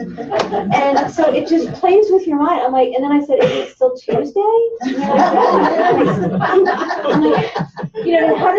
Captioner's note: laughter; laughter